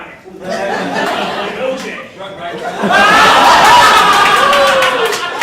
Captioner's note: audience laughing